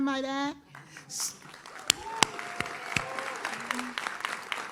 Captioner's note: audience claps